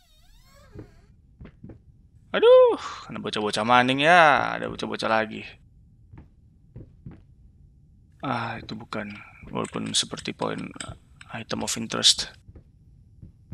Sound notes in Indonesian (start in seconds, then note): none